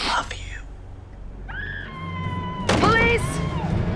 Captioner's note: screaming